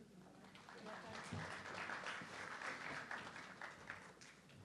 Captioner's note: audience clapping